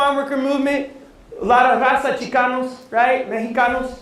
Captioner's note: non-english speech